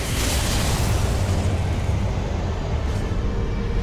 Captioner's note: lightning cracks; dramatic music